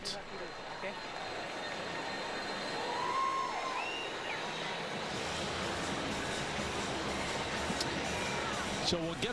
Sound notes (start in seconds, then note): 1.9 cheers